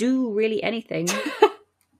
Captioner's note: laughs